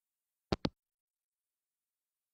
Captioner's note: hangup